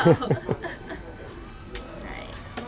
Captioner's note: chuckles